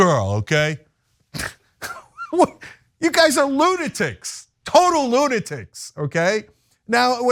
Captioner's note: laugh